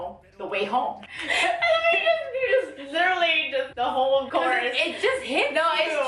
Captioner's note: laughs